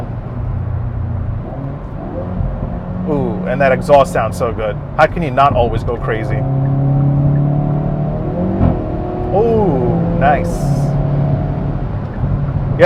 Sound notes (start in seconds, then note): 0.1 car engine roaring; 6.2 car engine roaring; 6.2 indicator blinking; 8.3 exhaust rattling; 10.6 car engine roaring